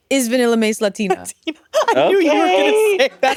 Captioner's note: all laughing